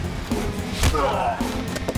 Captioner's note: groans